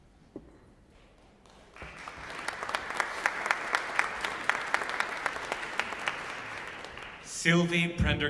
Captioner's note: applause